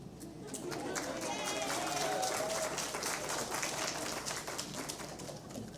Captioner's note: applause